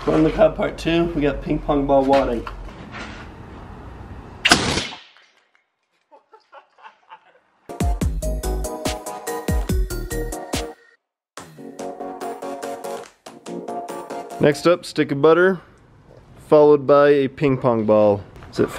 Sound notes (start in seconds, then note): 4.4 shoots air cannon; 6.0 laughs; 7.7 upbeat music